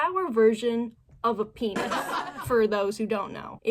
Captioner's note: laugh track